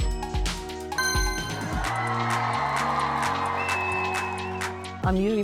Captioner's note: upbeat music; cheering